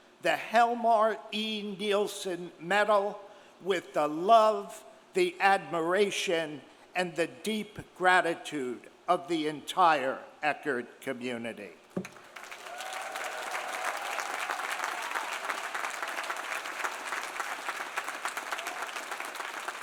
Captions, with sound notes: the Helmar E. Nielsen Medal with the love, the admiration, and the deep gratitude of the entire Eckerd community. (audience cheering) (audience applauding)